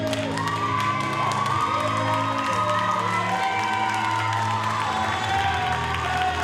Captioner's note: audience cheers and applauds